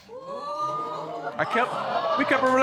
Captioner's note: audience exclaiming